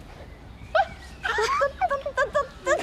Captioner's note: laughing